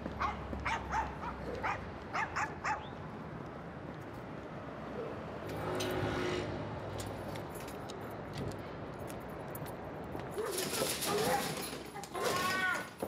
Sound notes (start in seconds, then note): 0.2 dog barking in the distance; 5.5 scooter engine sounds; 11.0 dog barking; 12.0 dog owner screams